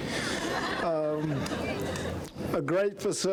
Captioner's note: crowd laughing